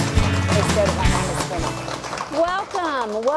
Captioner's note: upbeat music; applause